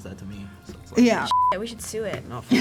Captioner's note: beep